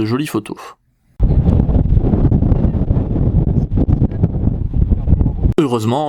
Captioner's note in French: Vent très fort